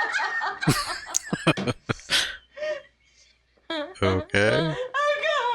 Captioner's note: chuckling